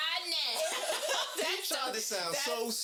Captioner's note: laughing